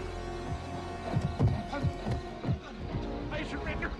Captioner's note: feet pounding